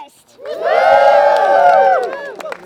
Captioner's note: cheering; applause